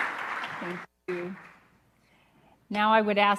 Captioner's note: applause